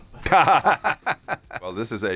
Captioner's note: laughter